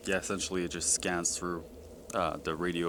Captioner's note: none